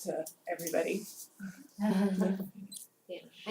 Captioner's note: laugh